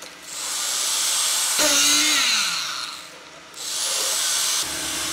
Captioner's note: machine revving